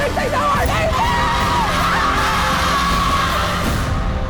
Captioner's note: shouting